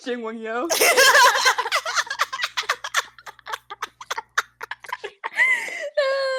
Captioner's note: everyone bursting into laughter anyways